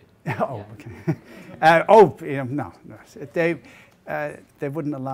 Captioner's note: laughs